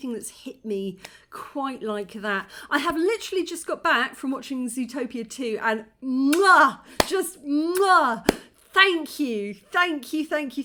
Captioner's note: kiss